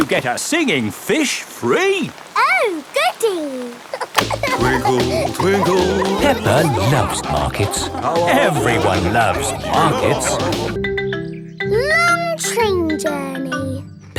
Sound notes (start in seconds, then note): 3.8 giggling